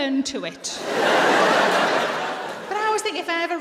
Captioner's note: laughter